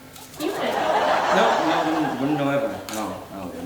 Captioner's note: audience laughing